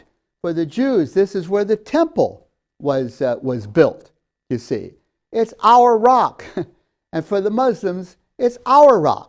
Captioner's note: laughs